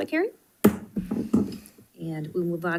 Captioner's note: gavel bangs